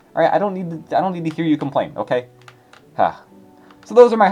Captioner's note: sigh